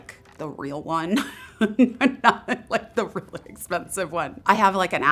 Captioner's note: laughing